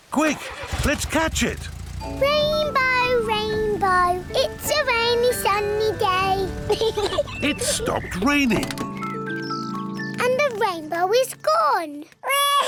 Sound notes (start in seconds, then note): 6.6 peppa pig laughs